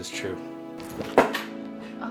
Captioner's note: loud bang